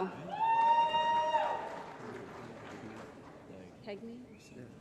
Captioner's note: applause